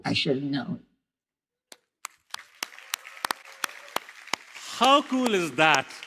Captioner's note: applause